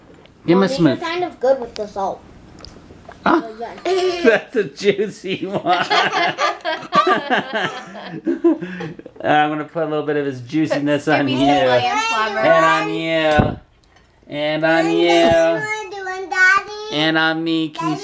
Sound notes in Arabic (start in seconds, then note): 4.9 يضحك